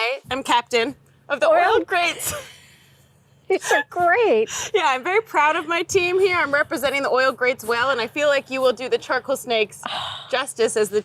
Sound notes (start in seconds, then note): 2.4 both laughing